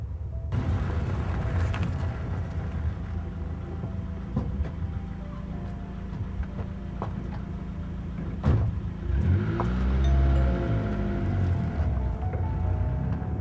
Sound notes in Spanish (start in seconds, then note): 10.0 sonido timbre